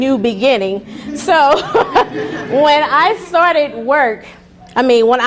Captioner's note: laughing